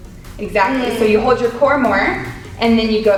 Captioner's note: mumbles in agreement